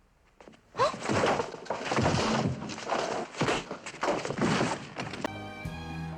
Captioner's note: fight noises